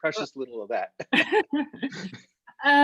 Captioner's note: laughing